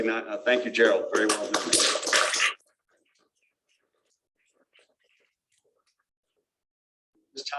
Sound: applause

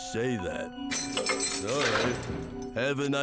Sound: keys rattling

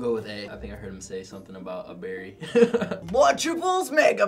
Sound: laughs

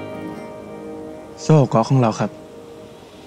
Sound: southern dialect

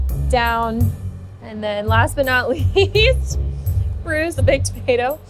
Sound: laughing

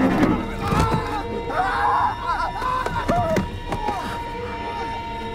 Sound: distant male screaming

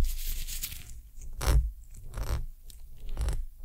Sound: glove Sounds

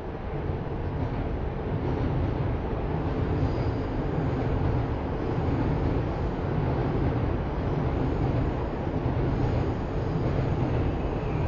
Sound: train Noises

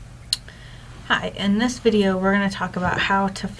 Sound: voiceover

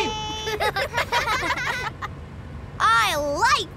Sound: laughing

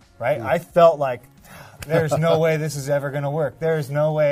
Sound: sighs

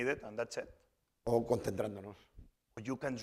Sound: speaking spanish

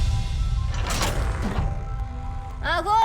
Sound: suspenseful music playing; doors creak

